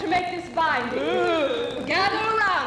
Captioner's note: women ooh